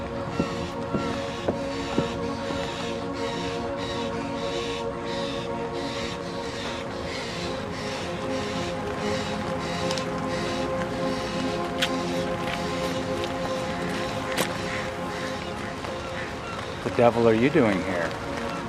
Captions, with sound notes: [footsteps] [crows caw] The Devil are you doing here?